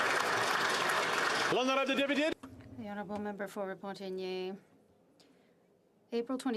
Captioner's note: applause